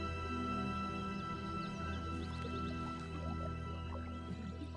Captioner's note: air ripples